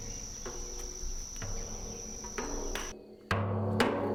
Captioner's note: tin echoing